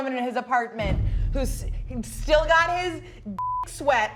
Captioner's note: beep